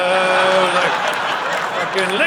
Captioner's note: audience laughing